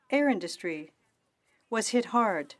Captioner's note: speaking French